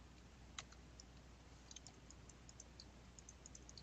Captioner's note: mouse clicking